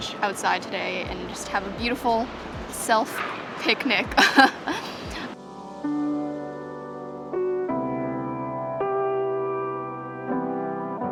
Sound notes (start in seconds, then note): 4.2 laughs; 5.5 soft music